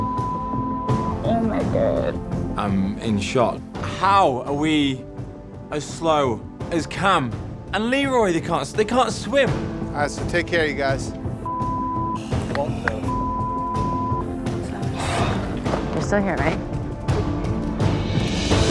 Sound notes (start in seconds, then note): 0.0 beep; 13.0 beep; 18.5 intense music